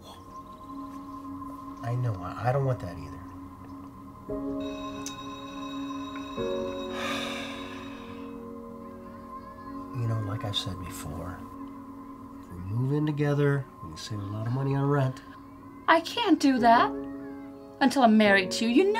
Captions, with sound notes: I KNOW, I DON'T WANT THAT EITHER. ( school bell heard outside in the distance ) ( children heard outside of school in the distance ) YOU KNOW, LIKE I SAID BEFORE... IF WE MOVE IN TOGETHER, WE'D SAVE A LOT OF MONEY ON RENT. I CAN'T DO THAT... UNTIL I'M MARRIED TO YOU. YOU KNOW THIS.